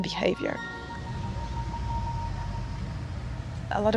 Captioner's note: music fades down. Crowd footsteps